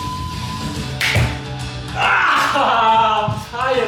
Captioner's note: upbeat music; screams